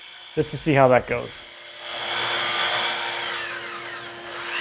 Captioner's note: machine whirring